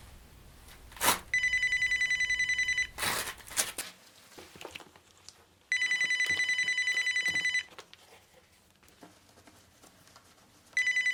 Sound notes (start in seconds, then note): 1.5 phone ringing